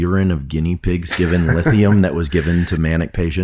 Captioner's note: laughs